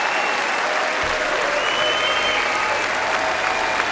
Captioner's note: applause